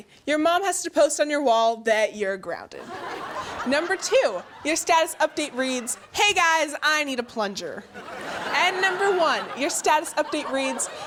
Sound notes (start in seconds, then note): 3.0 audience laughs; 8.0 audience laughs